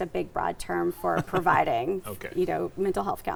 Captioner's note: laughing